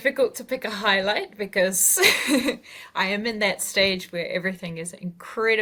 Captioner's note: laughs